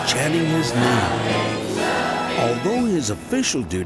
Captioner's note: crowd